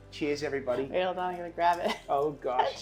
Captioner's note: laughs